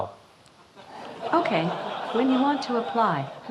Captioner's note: audience laughing